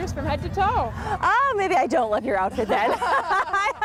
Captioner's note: laughter